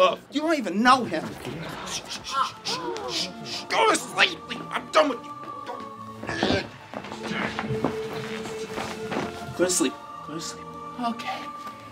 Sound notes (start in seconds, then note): 6.2 groans